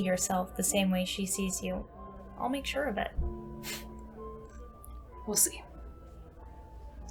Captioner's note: scoffs